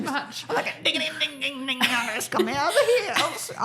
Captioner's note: imitates instrument playing